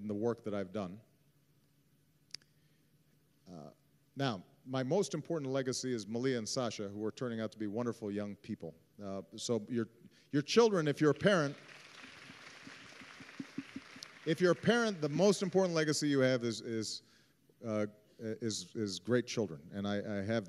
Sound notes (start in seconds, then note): 9.1 applause